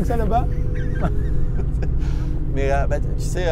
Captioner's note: laughter